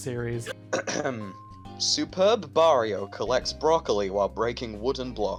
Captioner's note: clears throat